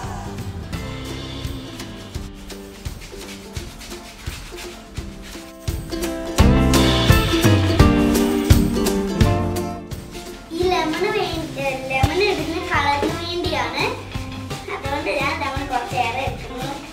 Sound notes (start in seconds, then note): 0.8 grating